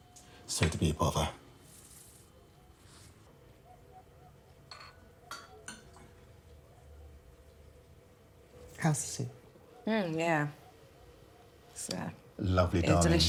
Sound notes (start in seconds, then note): 3.6 dog barking; 4.8 spoon clinking